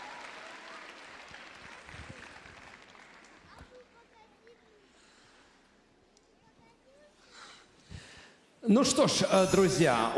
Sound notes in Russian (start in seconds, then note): 1.7 аплодисменты; 1.7 ликование